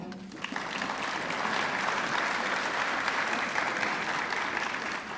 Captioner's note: audience clapping